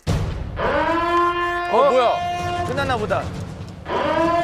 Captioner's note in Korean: 갑자기 울리는 사이렌 소리